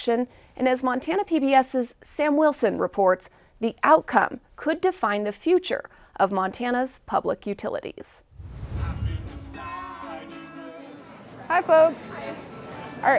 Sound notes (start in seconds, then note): 8.2 screen wipe whooshes; 9.8 upbeat live music